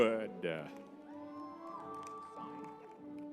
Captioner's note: crowd cheering